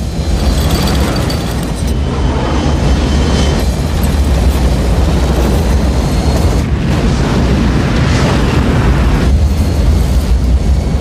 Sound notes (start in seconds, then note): 0.2 plane shaking; 3.7 electricity crackling; 6.7 rumbling